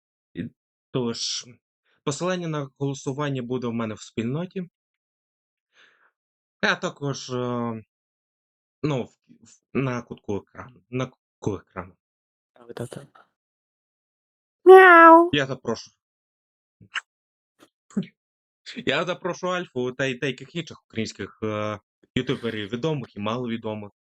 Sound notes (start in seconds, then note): 14.6 Alpha meowing